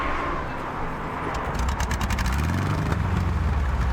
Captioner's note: engine revving